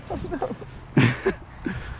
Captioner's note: laughs